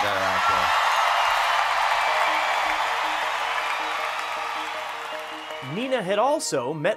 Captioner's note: audience cheering